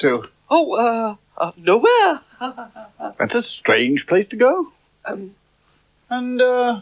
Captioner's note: laughs Nervously